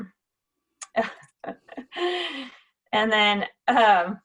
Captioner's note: chuckles